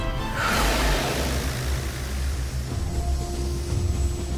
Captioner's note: creature growls; patriotic music